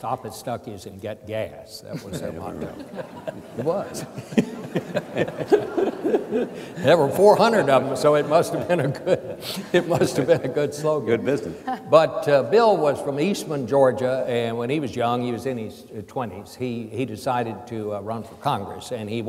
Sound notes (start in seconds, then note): 2.8 audience laughs